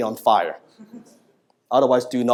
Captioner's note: audience members chuckling